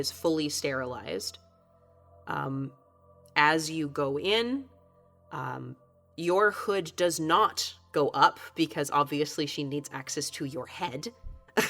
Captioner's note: chuckles